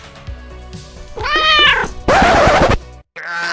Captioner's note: meow